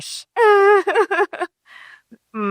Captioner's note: laughing